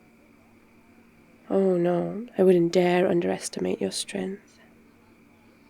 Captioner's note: sarcastically